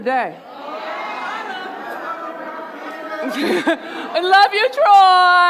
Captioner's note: audience murmuring